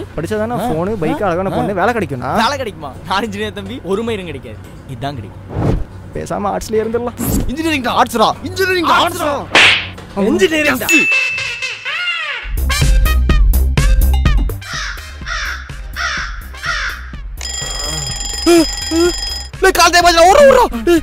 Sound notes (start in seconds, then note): 14.6 crows chirping; 17.4 alarm bell ringing